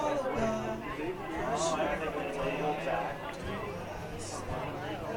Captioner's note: crowd chattering